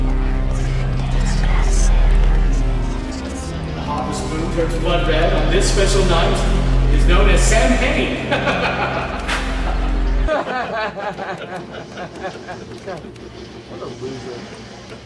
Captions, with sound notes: - [Etheric voice] When the harvest moon turns blood red on this special night, it is known as samhain. (Laughing) (Men laughing) - What a loser.